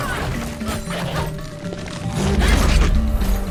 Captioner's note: dramatic music; Kena grunting